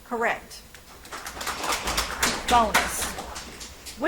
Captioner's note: audience applauds